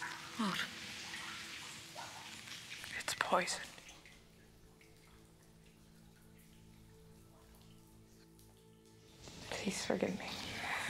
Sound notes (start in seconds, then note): none